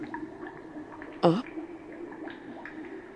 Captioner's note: gurgling noise